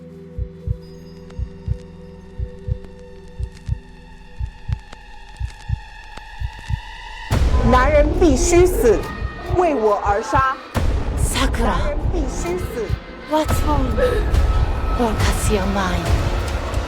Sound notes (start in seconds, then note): 7.7 Malice Voice; 8.5 Mandarin language; 9.6 Malice Voice; 10.3 Mandarin language; 11.8 Malice Voice; 12.6 Mandarin language; 13.7 Sakura distressed sobbing